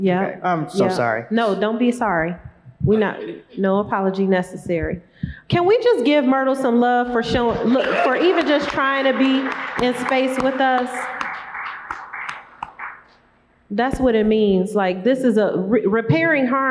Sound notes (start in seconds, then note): 13.3 applause